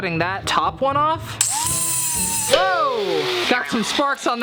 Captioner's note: grinder whirring